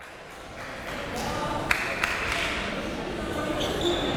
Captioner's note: crowd clapping; crowd members talking